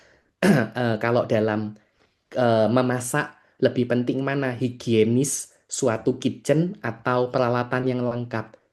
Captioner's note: berdehem